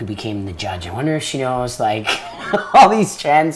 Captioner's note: laughs